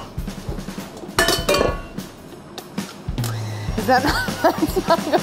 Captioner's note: metal clanging; laughing